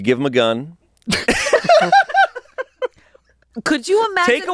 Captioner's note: everyone laughs